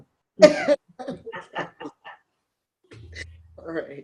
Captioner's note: laughter